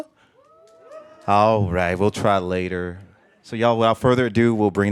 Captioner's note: muted cheers